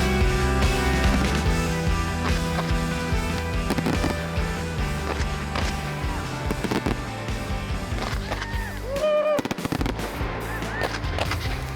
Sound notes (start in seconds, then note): 2.1 fireworks popping; 8.2 people cheering